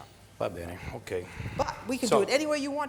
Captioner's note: speaking foreign language